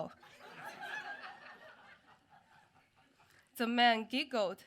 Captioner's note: audience laughing